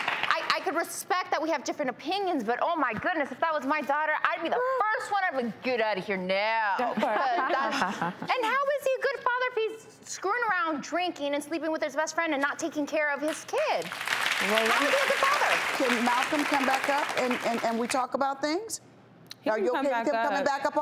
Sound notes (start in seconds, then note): 7.0 forced laughter; 13.7 applause